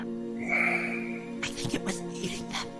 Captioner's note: heavy sigh